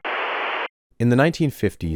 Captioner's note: static